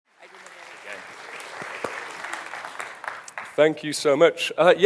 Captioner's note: audience applauding